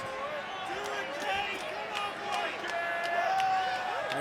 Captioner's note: crowd yelling